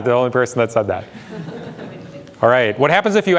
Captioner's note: audience laughs